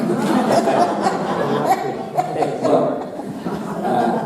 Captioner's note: audience laughing